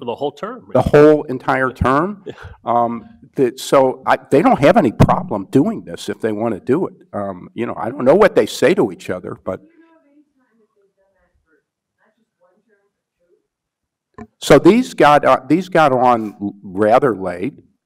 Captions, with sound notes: - The whole term. - The whole entire term. So they don't have any problem doing this if they wanna do it. You know, I don't know what they say to each other. (woman speaks faintly) These got on rather late,